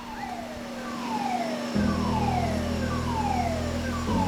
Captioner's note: sirens